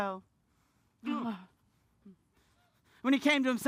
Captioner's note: sighs